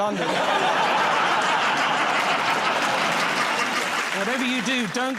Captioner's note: laughter